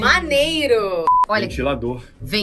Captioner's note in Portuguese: som de bipe